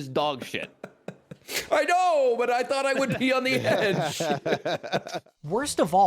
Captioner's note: laughs; laughing